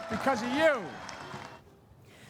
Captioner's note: cheering and applause